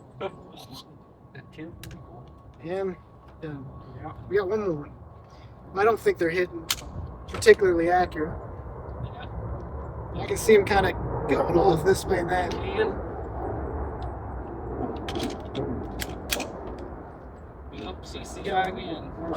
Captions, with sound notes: I don't think they're hidden particularly accurate. I can see them kind of going all this way then. [gun cocks] Oops, he's the guy again.